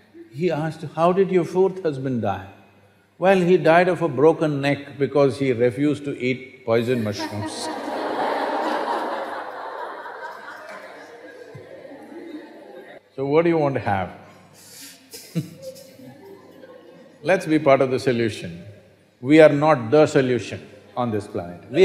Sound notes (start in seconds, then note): 6.9 laughter; 14.6 laughs